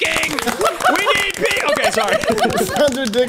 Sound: people laughing

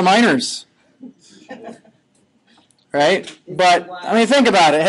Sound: students chuckling

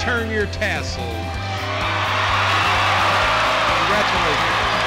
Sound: loud cheers and applause

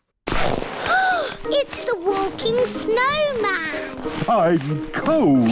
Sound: gasps

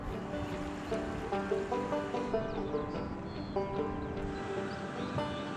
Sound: water rushing

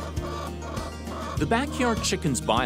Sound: hens clucking

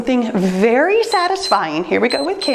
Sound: timer beeps

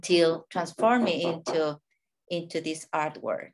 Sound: neighbor hammering

